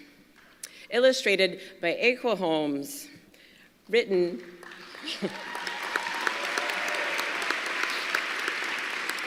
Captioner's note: applause